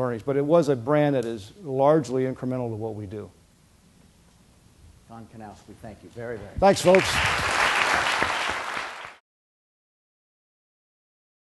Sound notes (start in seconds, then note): 6.7 applause